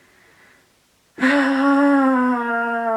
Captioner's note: sigh of pain